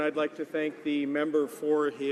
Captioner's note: speaking french